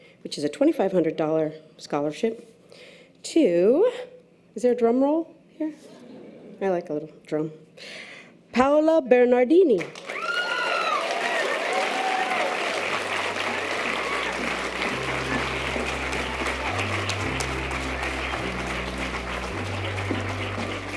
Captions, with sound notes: which is a $2,500 scholarship, to... Is there a drum roll? I like a little drum. Paola Bernadini. (audience applause and cheers) (string orchestral music)